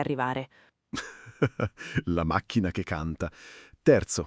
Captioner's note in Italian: Haha